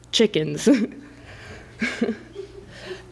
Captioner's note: laughs